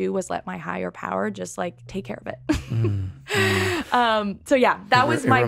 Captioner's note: laughs